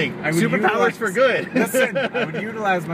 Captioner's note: laughter